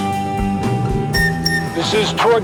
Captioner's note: whistle